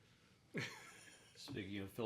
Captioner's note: laughing